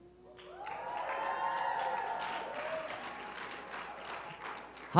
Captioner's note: cheering